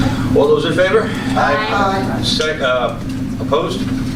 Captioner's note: A chorus of ayes